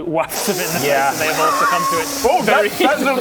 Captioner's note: sniiiiiiiiiff